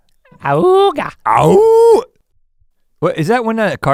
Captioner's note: Rhett howls